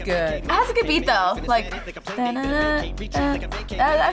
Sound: hums along

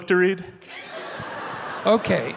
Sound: audience laughing

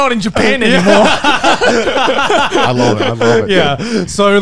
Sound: everyone laughs

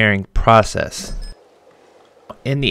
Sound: wallet beeps

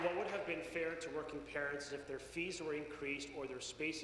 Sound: applause

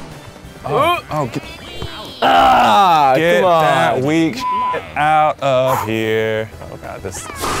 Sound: beeps

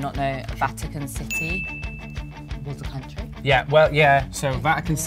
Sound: bell dings

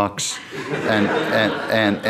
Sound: audience laughing

